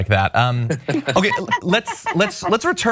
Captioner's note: laugh